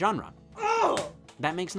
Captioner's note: exclaims